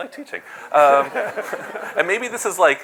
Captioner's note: laughter